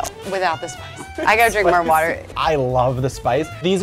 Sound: laughs

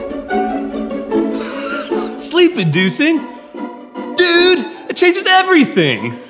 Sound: laughs; continues chuckling

